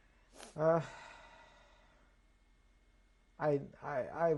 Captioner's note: sighs